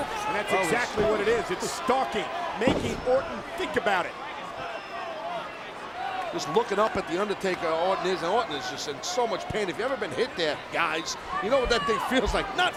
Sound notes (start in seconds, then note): 4.8 applause